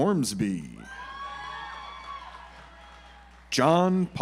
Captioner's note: audience applauds